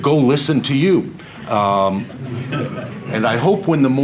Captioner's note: audience laughter